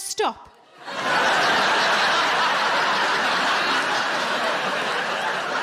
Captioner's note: audience laughing